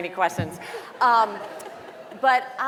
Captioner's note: audience laughing